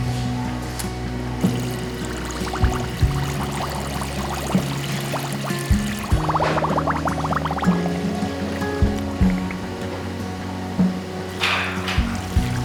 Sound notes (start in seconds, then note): 3.8 bubble bubble